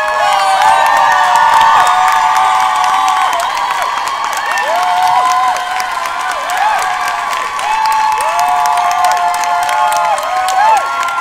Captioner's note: cheers and applause